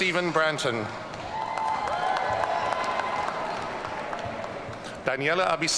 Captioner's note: audience cheering